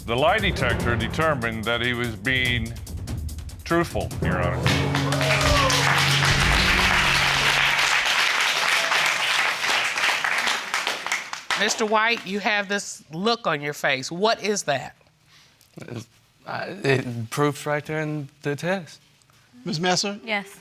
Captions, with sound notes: The lie detector determined that he was being truthful, Your Honor. (AUDIENCE APPLAUDING) Mr. White, you have this look on your face. What is that? It's... The proof is right there in the test.